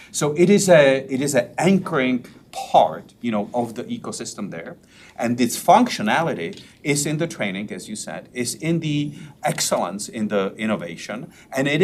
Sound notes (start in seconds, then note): none